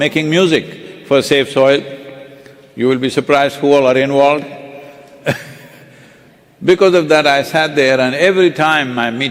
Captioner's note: few laugh